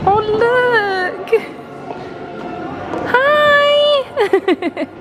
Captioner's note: laughing